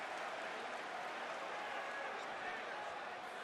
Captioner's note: crowd chatter